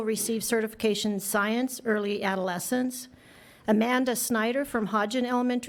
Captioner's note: none